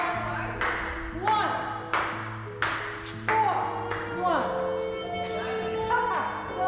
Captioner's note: hands clapping